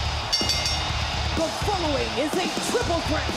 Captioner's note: bell rings